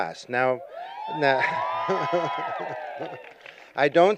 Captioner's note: cheering